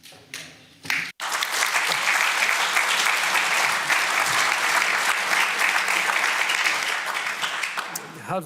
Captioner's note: applause